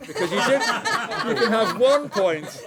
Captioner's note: laughter